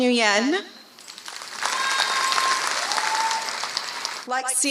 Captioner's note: applause